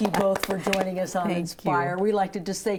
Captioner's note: group cheering